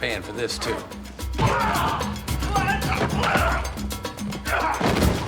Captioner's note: grunting